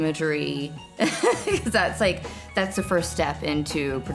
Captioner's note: laughing